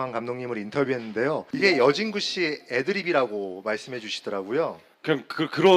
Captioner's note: Yongdae talking to himself